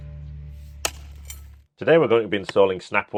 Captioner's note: hoe thunks